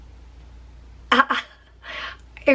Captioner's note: chuckles